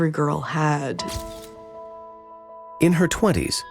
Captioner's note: gentle music; camera snapping